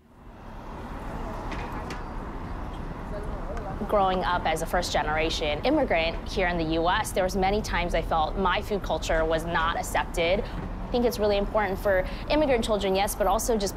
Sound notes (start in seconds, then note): 1.0 people chattering